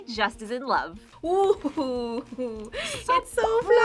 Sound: laughs

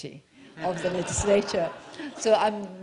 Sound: laughter

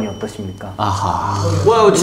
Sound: sighing

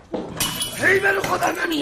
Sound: glass breaking

